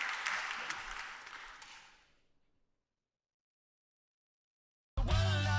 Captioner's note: applause